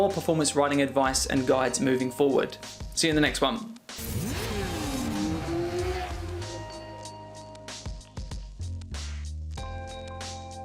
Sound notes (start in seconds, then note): 3.9 engine revving; 4.0 upbeat music